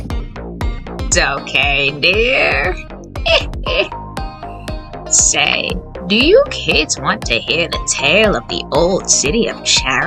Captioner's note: laughs